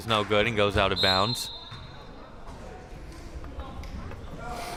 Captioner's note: whistle chirping